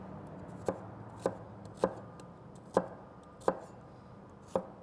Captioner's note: chopping sound